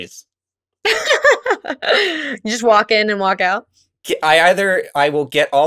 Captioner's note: laughs